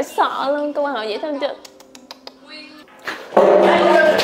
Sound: tsk tsk

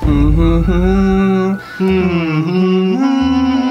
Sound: humming

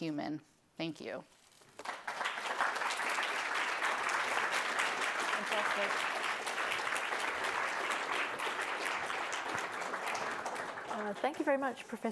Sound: applause

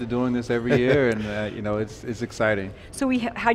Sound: laughing

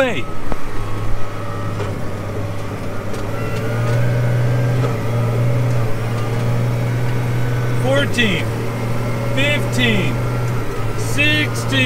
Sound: tractor sound

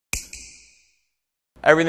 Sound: snap

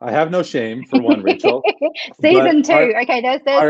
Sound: laughs

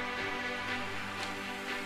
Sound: applause

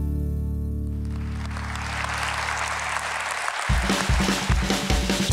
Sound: applause

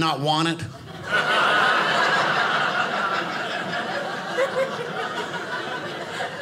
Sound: audience laughing

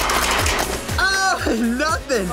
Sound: cars clattering

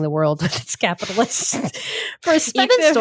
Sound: laughing

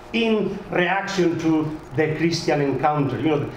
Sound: none

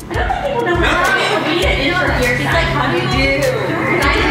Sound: crowd murmurs

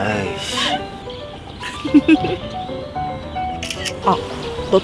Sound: #2 Laughs a lot

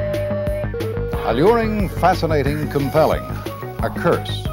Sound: digital tones and beeps

